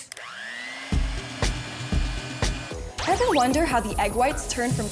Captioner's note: egg beater whirring